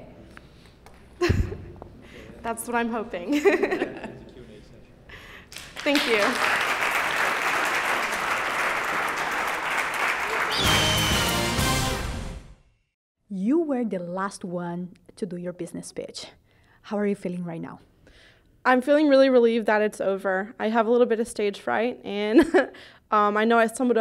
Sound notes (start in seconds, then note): 1.2 laughter; 5.4 applause